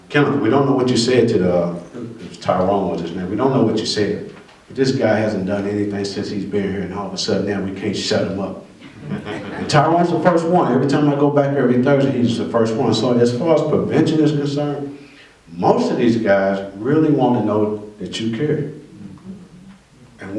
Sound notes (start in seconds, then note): 8.8 laughter